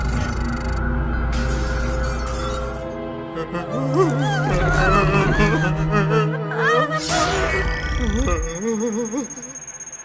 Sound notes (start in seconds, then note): 3.4 many whimperings; 8.3 beep Beep!